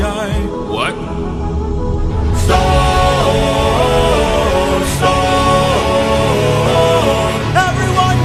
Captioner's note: storm